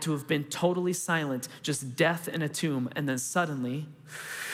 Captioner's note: inhaling